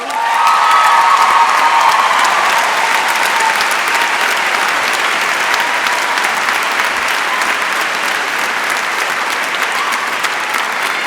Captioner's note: applause